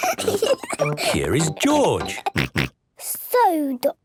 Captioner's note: snort